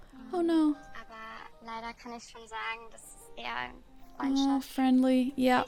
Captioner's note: speaking in German